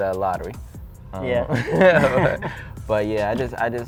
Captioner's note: laughs